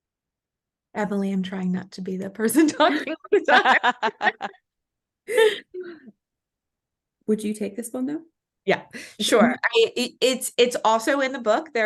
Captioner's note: laughs